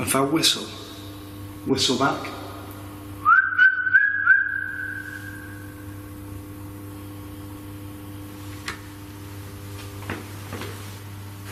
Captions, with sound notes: If I whistle, will you whistle back? (whistles)